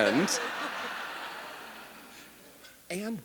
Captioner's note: audience laughing